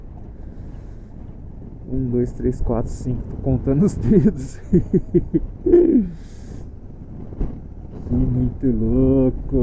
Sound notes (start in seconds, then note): 5.6 laughs